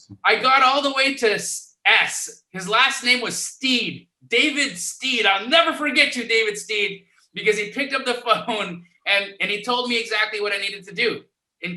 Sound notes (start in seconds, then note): 8.2 laughs